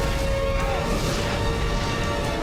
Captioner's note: shout